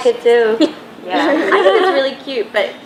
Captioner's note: laughs